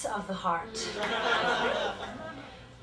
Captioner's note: laughter